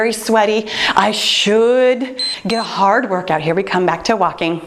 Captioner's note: timer beeps